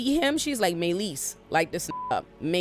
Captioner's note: beep